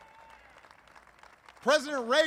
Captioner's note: applause